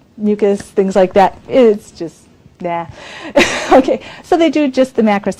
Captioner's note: laughs